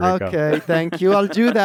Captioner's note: laughs